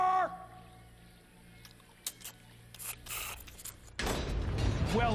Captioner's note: sucking and slurping